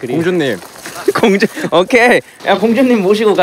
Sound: haha

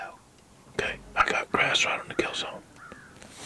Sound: whispering

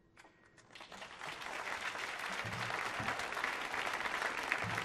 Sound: audience applauding

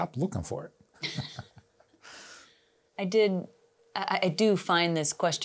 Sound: both laughing

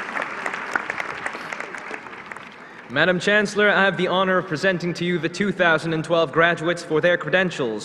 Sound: applause

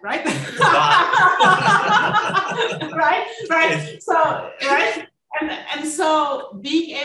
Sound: laughing

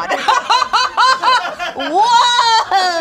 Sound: laughs

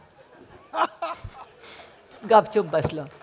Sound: laughter

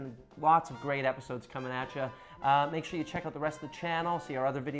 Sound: none

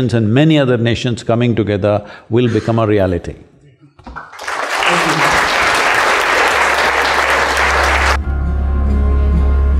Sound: applause

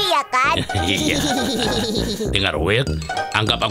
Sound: laughing

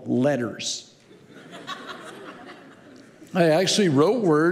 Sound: congregation laughing

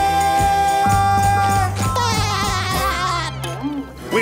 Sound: laughs

